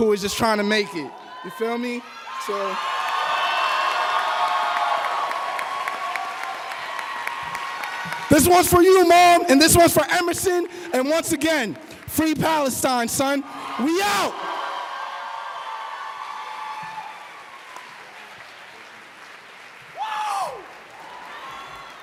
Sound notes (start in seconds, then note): 8.0 applause